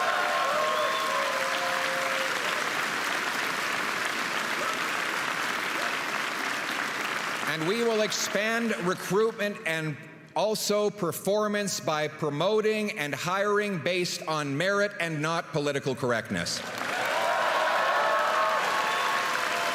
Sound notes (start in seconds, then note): 4.8 applause and cheering